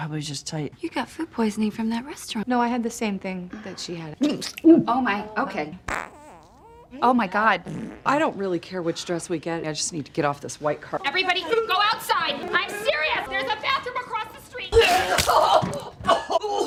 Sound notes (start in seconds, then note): 4.5 retches; 5.8 FARTlNG